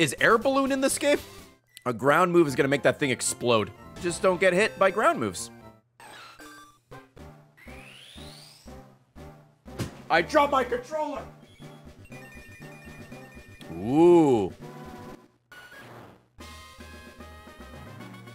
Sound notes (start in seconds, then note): 6.2 thud